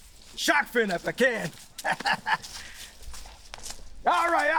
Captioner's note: chuckles